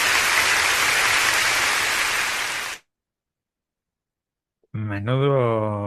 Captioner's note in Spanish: aplausos